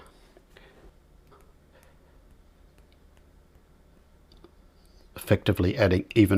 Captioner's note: silence